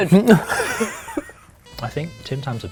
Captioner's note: laughter